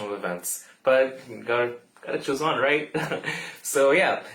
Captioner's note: laughs